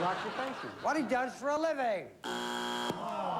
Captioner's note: buzzer